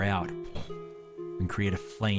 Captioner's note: poof